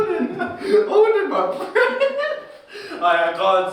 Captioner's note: laughs